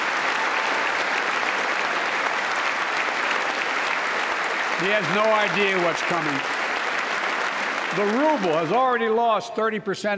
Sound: applause

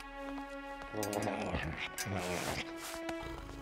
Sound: grunting

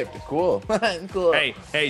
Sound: laugh

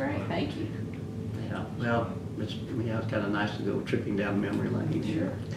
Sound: laughs

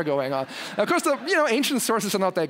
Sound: laugh

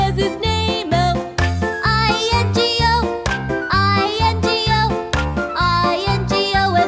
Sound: clap

